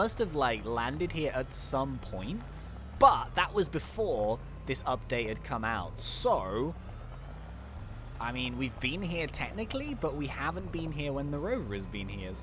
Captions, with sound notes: we must've liked landed here at some point, but that was before this update had come out. So, (car engine roaring) I mean, we've been here technically, but we haven't been here when the rover was been here.